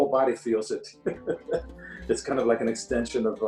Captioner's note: laughs